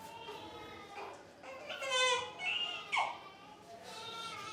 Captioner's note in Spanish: el bebé en brazos llora